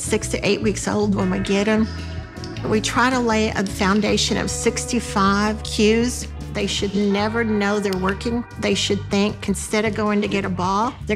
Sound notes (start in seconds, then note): 1.7 clicker clicking; 8.2 clicker clicking